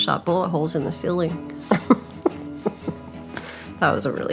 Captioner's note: laughter